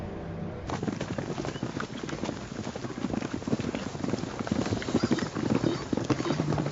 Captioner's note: hoofbeats galloping